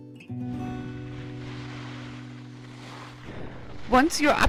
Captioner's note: skis whooshing